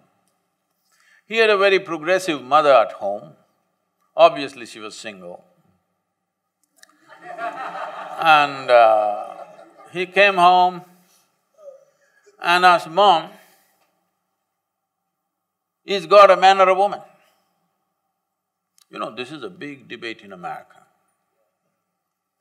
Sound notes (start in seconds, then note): 6.9 laughter